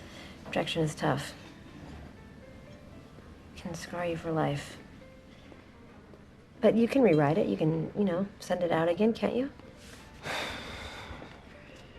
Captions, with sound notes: Rejection is tough. lt can scar you for life. But you can rewrite it. You can, you know, send it out again, can't you? (SlGHS)